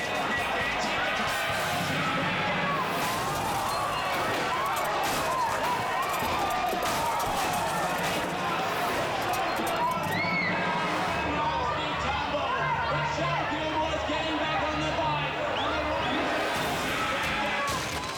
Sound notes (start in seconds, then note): 0.2 announcer shouts; 0.2 crowd shouting; 4.9 dramatic music; 6.7 bikers crashing; 15.0 tense dramatic music